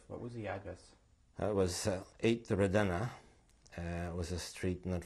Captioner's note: non-english